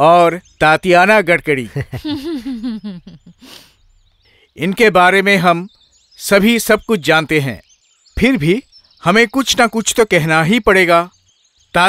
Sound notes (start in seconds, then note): 1.6 laughs